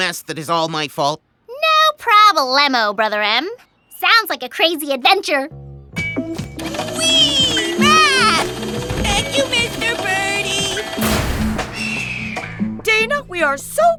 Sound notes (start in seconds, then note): 11.7 vulture cries